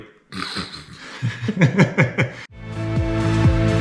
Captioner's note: laughs